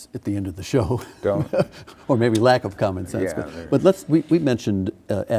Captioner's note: laughing